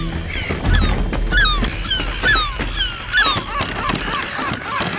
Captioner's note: gulls squawking manically